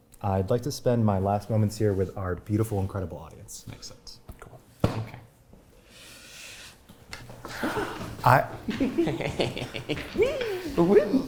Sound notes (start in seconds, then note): 8.6 giggle